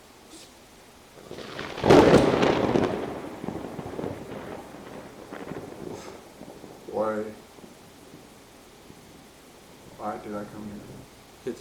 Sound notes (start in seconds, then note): 0.8 lightning striking